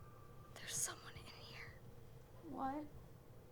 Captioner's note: whispers